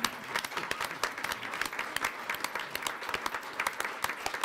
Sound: audience applauds

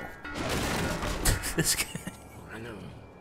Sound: laughs

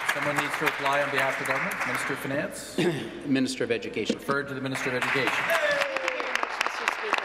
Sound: applause

